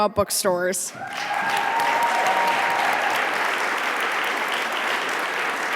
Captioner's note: audience applauding